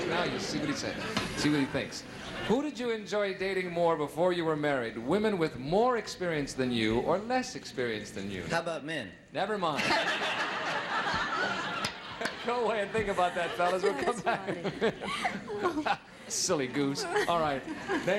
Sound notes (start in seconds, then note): 10.1 audience laughing